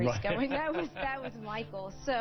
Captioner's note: laughs